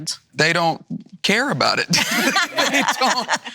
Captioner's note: laughs